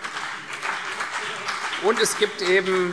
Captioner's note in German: Beifall CDU und BÜNDNIS 90/DIE GRÜNEN